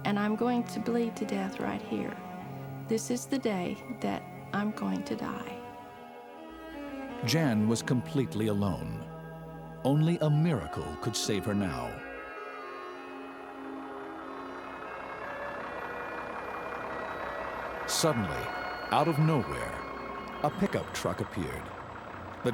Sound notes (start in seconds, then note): 13.3 truck engine humming